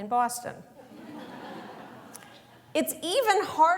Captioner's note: laughter